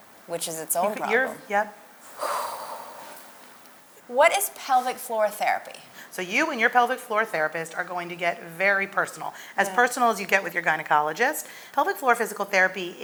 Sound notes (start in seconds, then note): 2.2 exhaling